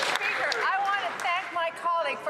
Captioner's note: some Applause